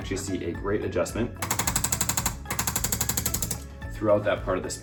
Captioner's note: tool rattling